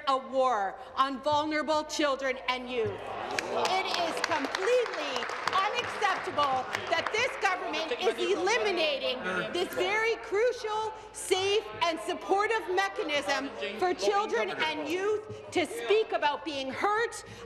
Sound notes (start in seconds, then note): 7.6 applause